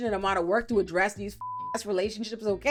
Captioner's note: beep